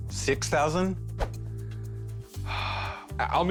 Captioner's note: sighs